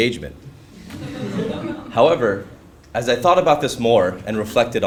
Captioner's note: laugh